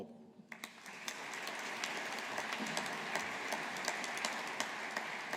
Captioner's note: audience applauding